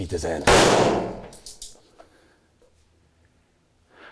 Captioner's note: gunshot booming